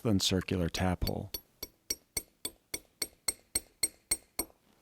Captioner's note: hammer tapping